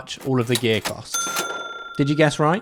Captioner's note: cash register rings